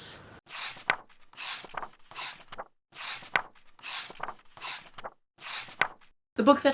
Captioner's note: pages turning